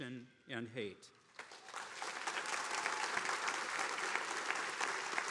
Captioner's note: attendees applauding